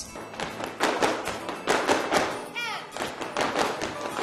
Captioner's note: dancers tapping